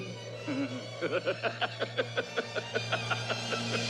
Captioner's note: PRESENT LAUGHlNG